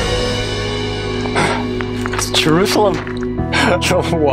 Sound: gasps

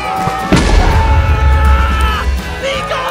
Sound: cheering

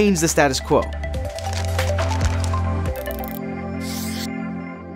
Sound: light thoughtful music; paper rustling; marker pen scrapes

